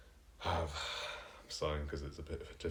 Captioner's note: sigh